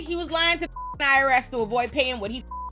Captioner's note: beep